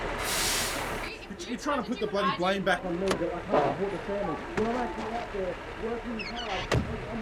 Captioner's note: voices arguing